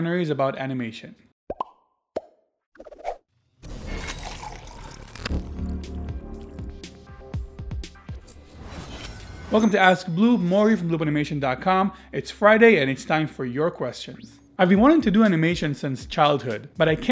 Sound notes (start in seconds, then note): 1.4 bubble pops; 7.2 light drum music